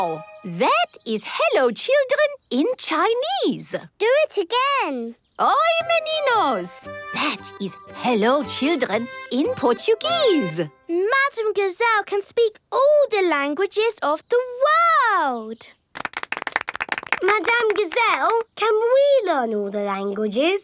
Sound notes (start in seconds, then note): 0.0 speaking Chinese; 5.0 speaking Portuguese